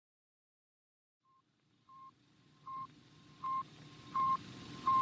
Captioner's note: space beeps